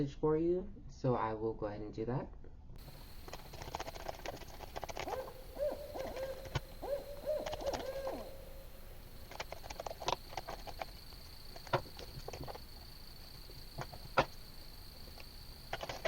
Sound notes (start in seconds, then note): 2.8 night tones and owl hoots